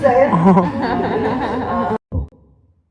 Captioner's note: laughter